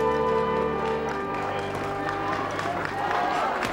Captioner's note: applauding